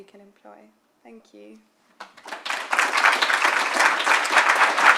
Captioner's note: applause